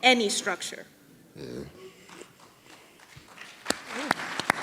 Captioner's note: people clapping